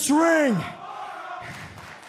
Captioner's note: crowd cheering